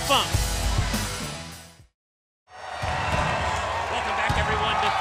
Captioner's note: crowd cheering